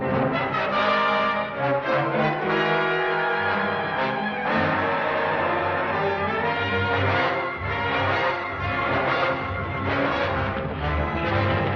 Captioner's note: bell; bell and music